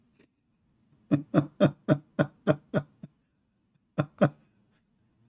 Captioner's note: Ketawa